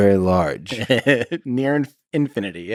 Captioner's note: Tim laughs